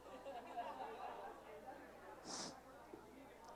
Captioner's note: chatter